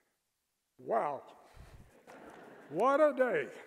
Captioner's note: laughter